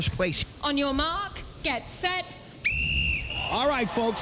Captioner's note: whistle blows